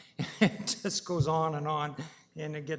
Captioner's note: laughs